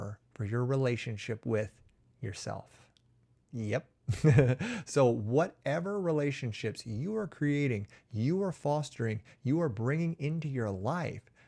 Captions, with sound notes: of your relationship with yourself. Yes. [chuckles] Whatever relationships you are creating, you are fostering, you are bringing into your life,